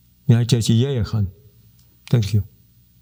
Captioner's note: speaking in Native language